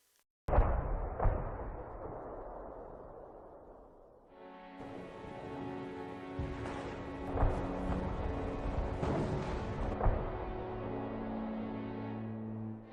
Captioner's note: sound of bombs, gunfire